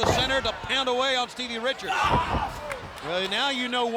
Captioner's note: blows thudding